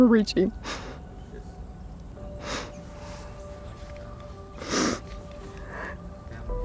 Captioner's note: sobbing